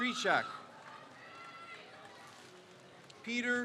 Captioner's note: crowd cheers